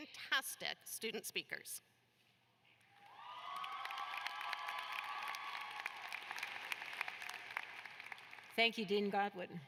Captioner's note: cheers and applause